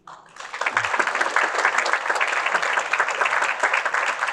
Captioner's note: audience applauding